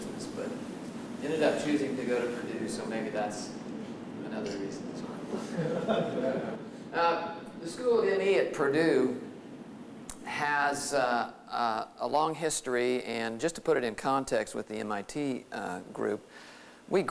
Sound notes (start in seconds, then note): 5.4 laughter